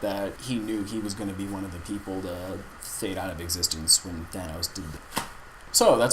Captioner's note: snap